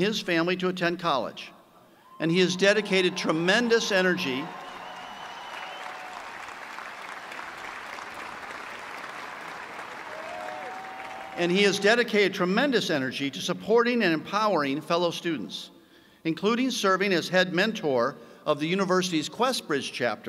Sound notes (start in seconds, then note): 8.7 cheers and applause